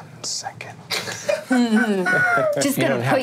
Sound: all laughing

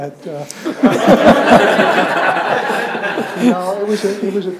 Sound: audience laughs

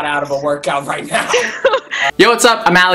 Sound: laughing

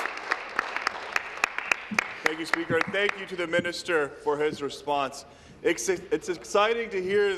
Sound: applause

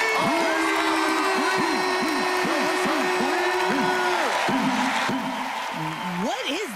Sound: whooping

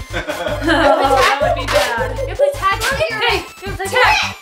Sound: giggles

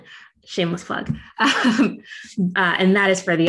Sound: chuckling

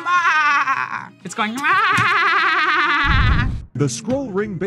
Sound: bleats; bleats

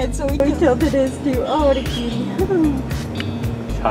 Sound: laugh

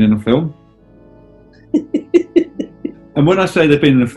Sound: giggling

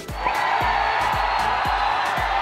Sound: crowd cheering

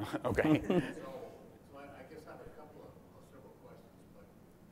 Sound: laugh

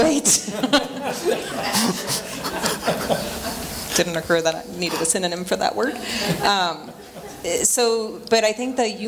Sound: chuckling

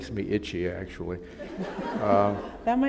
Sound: laughter

